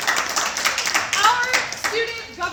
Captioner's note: applause